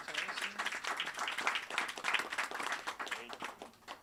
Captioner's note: audience applauds